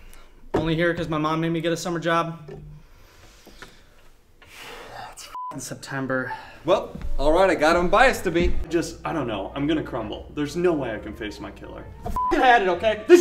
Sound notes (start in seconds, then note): 5.3 beep; 6.2 sighs; 12.1 beep